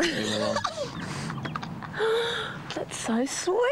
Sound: laughs

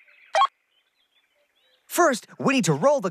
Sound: beep

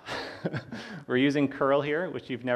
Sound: laughs

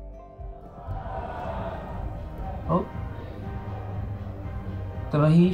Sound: raised voices from street

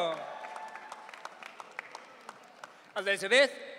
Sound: audience cheering

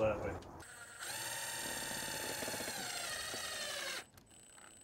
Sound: drill hums

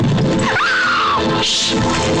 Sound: scream

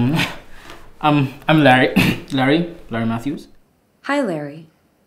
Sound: cough

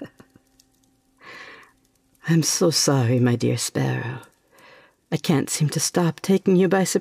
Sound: laughing

